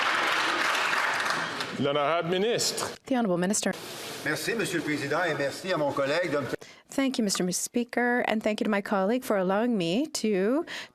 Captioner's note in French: applaudissements